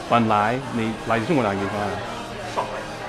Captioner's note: mandarin